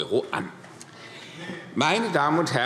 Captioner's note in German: Zurufe DIE LINKE